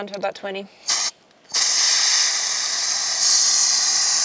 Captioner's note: air hissing